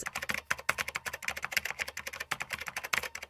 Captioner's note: keyboard clicking